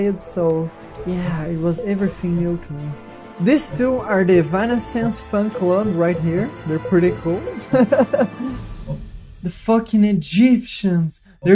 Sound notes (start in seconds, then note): 7.4 giggles